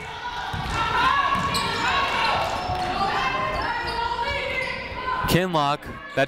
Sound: people shouting in the crowd

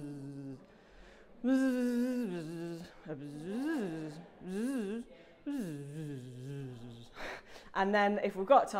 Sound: slow bzzz repeated; slow bzzz repeated

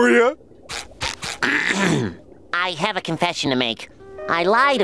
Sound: clearing throat

